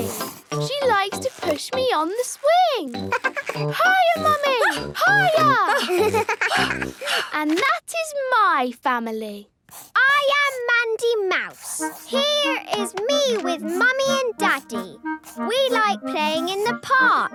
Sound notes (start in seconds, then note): 2.9 giggles; 5.1 panting